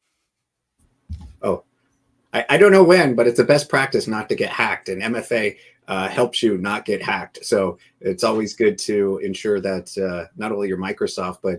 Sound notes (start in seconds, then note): none